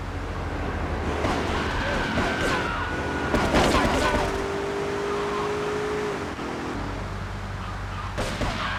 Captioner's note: screaming